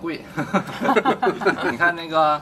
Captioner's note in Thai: หัวเราะ